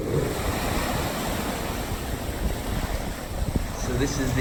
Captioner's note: sound of waves